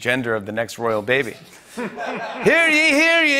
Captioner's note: laughter